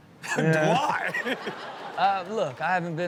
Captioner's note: audience laughs